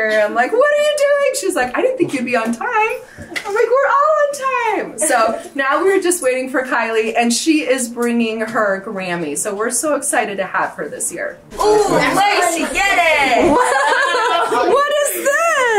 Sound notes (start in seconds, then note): 5.0 chuckles; 13.7 group laughs